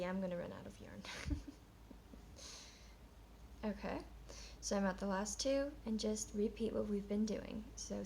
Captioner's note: chuckles